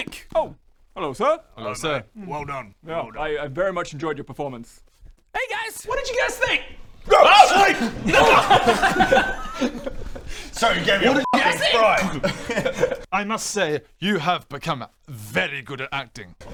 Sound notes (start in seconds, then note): 7.8 laughter